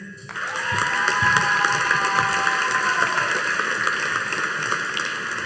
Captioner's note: audience cheering and applauding